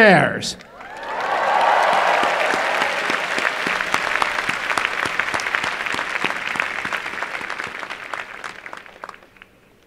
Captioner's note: applause and cheering